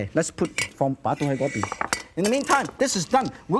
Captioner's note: foreign language